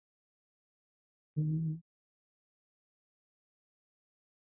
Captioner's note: hums